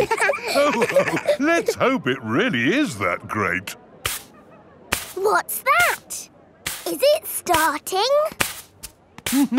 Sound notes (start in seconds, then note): 0.0 all laughing; 4.1 brushing